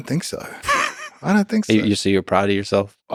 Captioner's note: Lex laughs